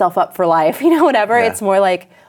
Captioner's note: laughs